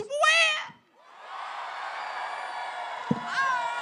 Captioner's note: applause